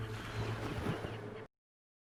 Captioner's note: beeping